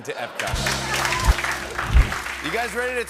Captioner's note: cheering and applause